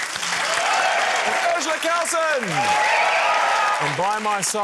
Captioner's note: cheering, applause